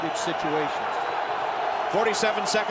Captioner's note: cheering